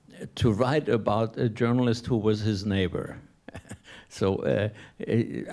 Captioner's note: laughs